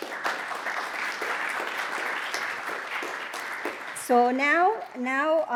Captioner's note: audience applauds